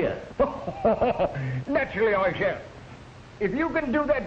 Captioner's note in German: lacht